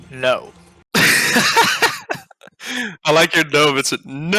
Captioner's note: laughing